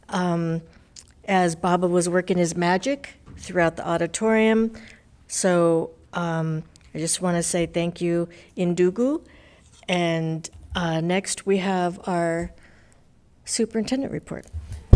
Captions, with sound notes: as Baba was working his magic throughout the auditorium. So I just wanna say thank you, (speaking foreign language) and next we have our superintendent report.